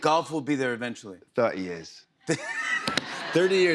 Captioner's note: laughter